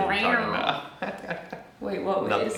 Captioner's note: chuckles